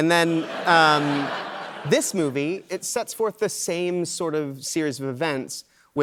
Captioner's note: laughter